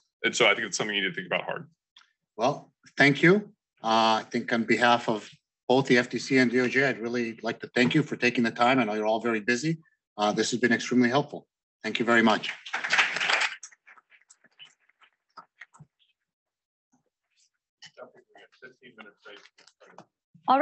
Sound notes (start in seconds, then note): 12.3 people clapping